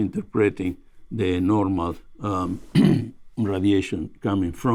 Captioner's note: clears throat